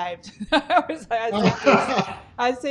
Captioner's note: laughing